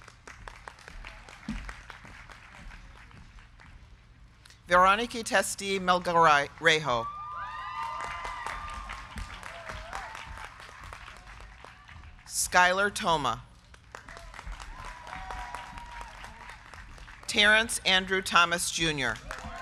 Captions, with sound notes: (crowd clapping) Veronica Testi Melgarejo. (crowd cheering) (crowd clapping) Skylar Thoma. (crowd cheering) (crowd clapping) Terence Andrew Thomas Jr.